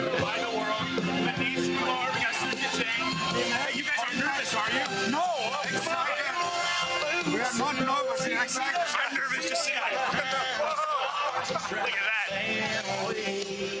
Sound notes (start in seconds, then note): 8.3 speaks faintly; 9.1 all laugh